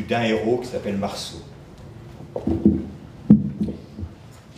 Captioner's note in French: bruit du micro